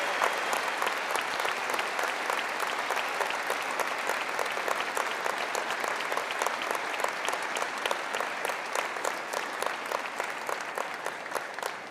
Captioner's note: applause